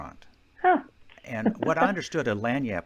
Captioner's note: chucking